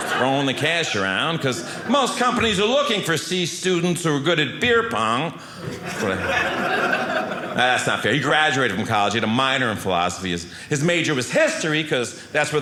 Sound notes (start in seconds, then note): 5.6 audience laughing